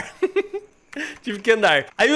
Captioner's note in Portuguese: risos